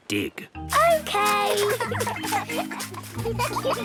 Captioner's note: giggling